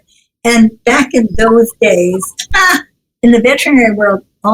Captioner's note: giggles